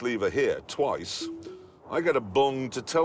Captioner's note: beeps